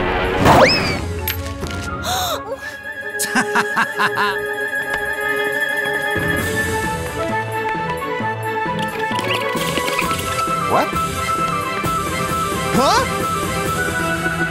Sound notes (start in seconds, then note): 8.6 scribbling